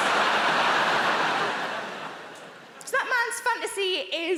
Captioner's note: audience laughing